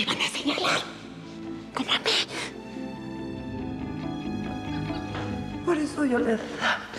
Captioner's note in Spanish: susurra